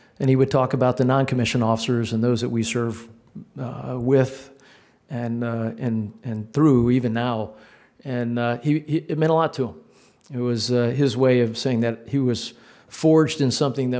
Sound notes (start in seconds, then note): none